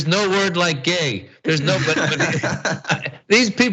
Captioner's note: laugh